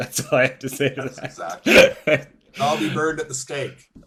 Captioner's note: laughter